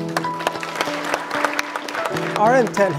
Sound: audience applauds

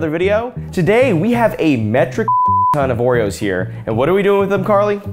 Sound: beep

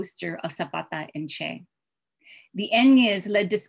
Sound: spanish

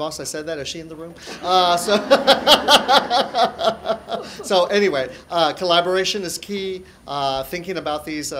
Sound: laughter

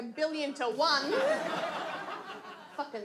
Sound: audience laughs

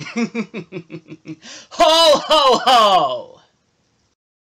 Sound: giggles; takes a breath

